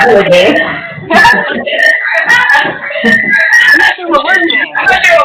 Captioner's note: laughter